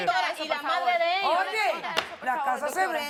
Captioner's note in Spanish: Hablan al unísono